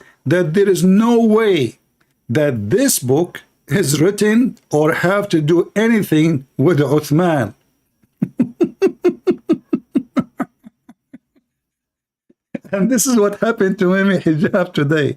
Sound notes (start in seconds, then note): 8.1 Ketawa